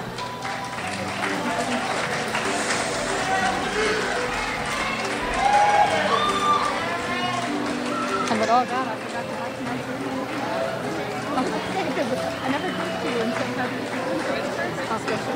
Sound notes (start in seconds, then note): 0.1 crowd applauds; 5.8 crowd cheers; 8.6 woman speaks off mic